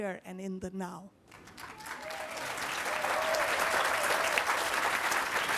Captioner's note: applause